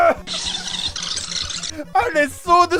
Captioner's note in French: bruit d'une K7 que l'on rembobine